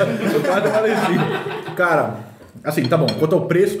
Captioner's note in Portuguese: risos